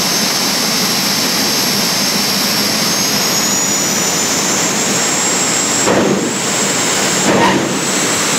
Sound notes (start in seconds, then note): 1.6 jet engine winding up sound; 6.6 pop, pop, pop